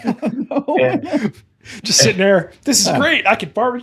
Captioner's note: laughing